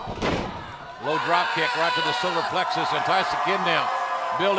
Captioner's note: crowd chatter